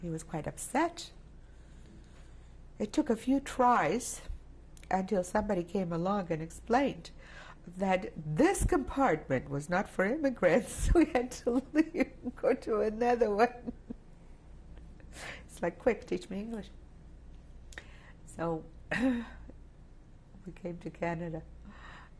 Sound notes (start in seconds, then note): 10.5 laughs